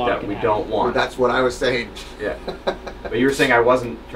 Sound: chuckles

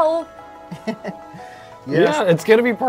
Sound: laughs

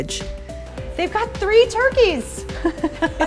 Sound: laughs

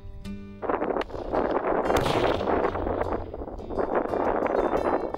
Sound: gunshot; wind blowing

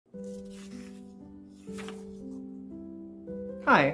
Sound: sound of page being turned

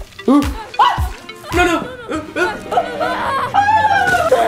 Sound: whining

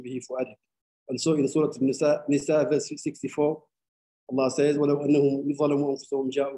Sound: speaking arabic; speaking arabic

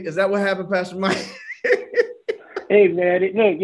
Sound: laughs

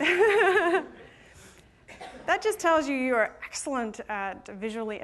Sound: laughter

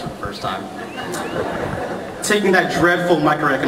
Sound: laughter

